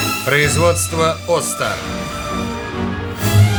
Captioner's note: thunder